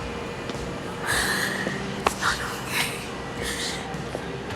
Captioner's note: sharp gasping